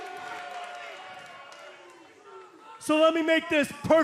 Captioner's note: cheers and boos